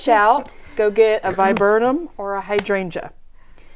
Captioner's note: laughing